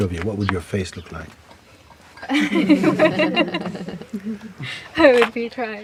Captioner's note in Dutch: gelach